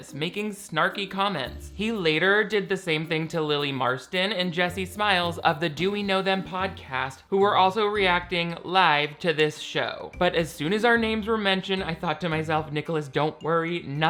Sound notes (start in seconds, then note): none